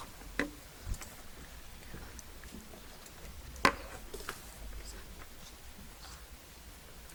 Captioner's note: none